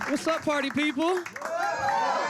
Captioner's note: cheering